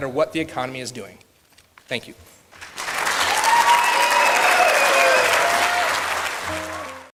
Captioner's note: clapping; cheers